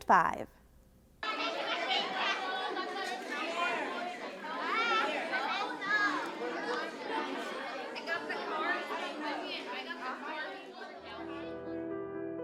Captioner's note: indistinct conversations